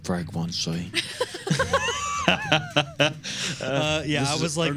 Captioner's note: laughing